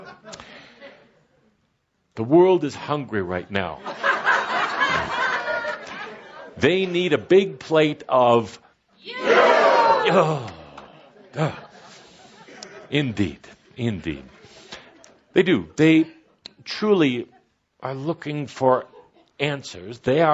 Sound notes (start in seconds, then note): 0.0 laughter; 3.8 much laughter as Kuthumi repeats himself again